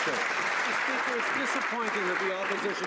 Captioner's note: some Applause